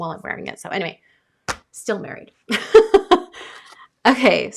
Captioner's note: laughs